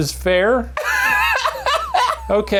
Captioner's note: laughing